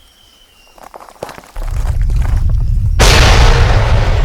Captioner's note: rocks clattering; ground crashing